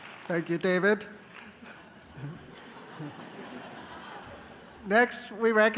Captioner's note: applause